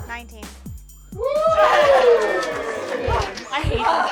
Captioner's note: cheers